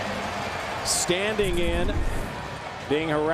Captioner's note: cheering